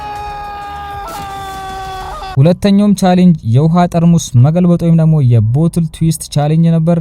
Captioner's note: shouting